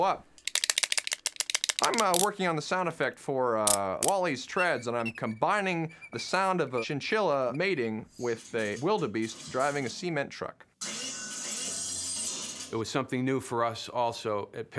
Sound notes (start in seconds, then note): 0.4 clacking; 3.3 clicking; 4.4 squeaking; 10.6 metallic clattering